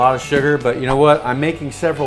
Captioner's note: whoosh